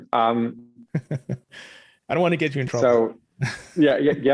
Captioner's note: laughs